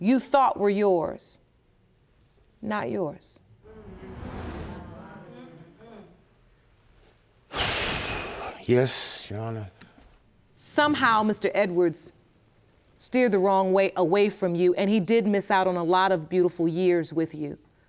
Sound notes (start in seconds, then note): 7.5 exhales